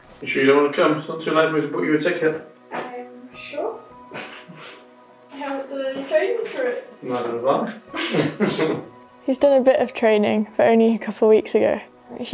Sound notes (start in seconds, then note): 7.9 laugh